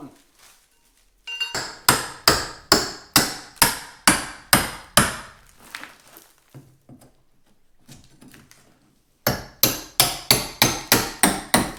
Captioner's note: hammering noises